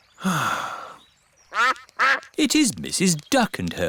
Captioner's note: sighs; quacking